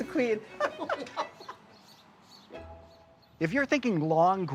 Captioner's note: laughing